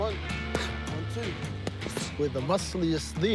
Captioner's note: exhales sharply